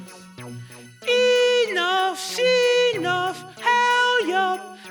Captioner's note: falsetto